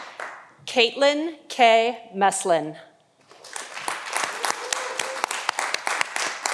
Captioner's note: audience applauding